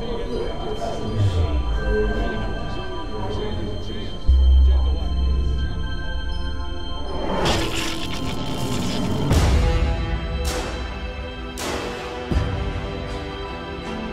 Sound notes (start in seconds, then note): 0.1 dramatic music; 7.4 electrical popping; 9.9 thematic music